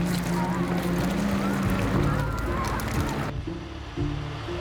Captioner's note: water splashing